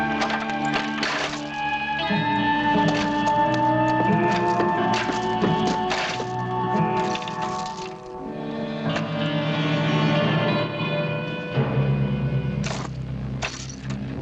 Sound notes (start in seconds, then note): none